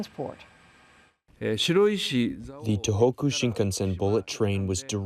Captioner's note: through translator